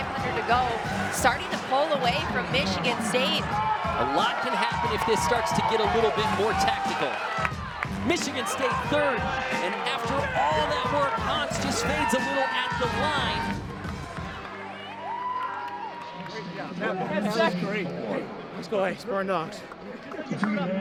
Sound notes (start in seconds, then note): 14.2 crowd faintly cheering